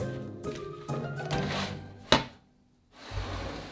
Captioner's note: sheet pan sliding